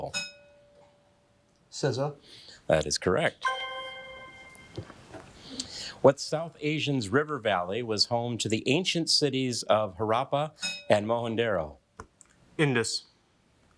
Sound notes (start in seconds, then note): 0.1 bell dinging; 3.4 bell dinging